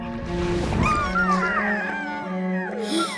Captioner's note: whimpering; gasping